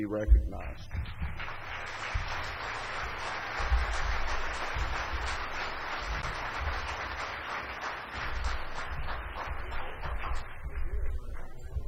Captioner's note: applause